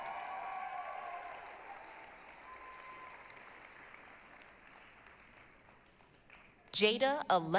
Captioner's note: applause, cheering